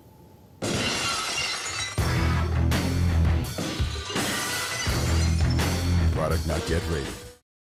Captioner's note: glass breaking